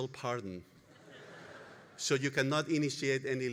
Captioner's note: audience laughing